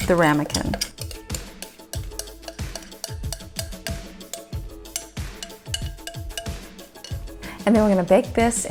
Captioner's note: spoon clanking against glass bowl